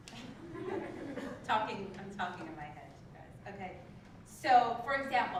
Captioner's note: laugh